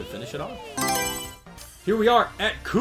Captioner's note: Mario Selection Sound